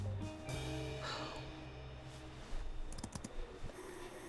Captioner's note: Rachel sighs